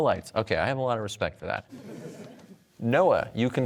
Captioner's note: audience laughter